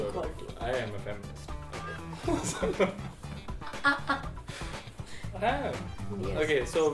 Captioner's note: both laugh